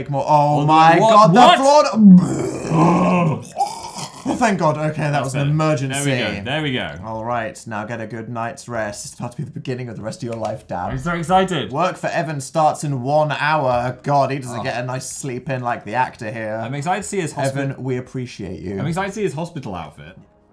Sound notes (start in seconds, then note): 1.9 vomit noises; 10.3 claps